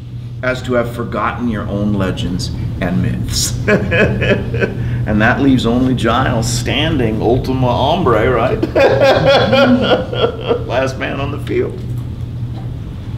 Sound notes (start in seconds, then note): 3.4 laughs; 8.6 laughter